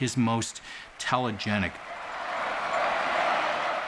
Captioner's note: chanting